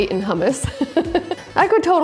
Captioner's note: laughing